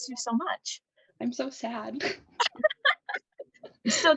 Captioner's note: laughter